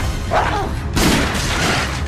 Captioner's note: shoots